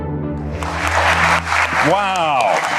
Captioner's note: applause